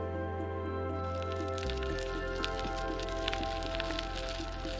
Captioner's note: tires crunching